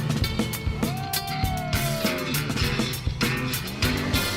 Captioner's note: cheering